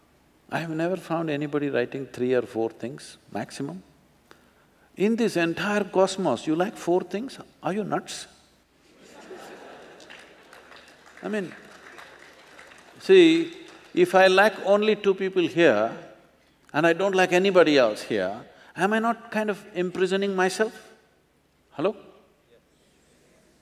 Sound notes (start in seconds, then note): 8.9 laughter/Applause